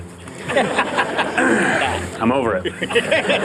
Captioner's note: laughter